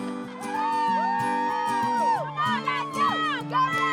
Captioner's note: cheering